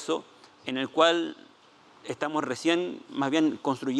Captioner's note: speaking Spanish